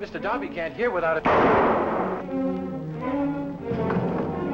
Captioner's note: gunshot